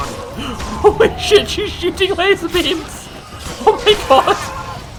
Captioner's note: giggle